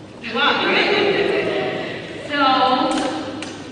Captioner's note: laughing